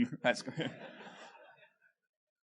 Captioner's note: laughter